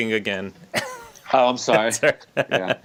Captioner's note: laughs